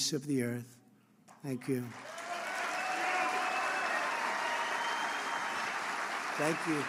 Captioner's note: applause